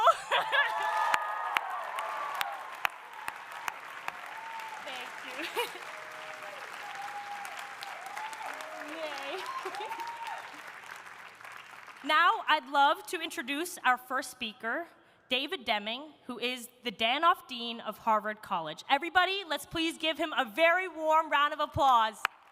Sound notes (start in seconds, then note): 0.1 audience applauding; 0.1 audience cheering; 5.2 chuckles; 9.6 chuckles